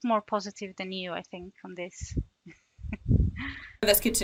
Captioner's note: laughs